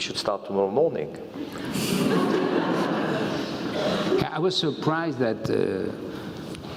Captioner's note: laugh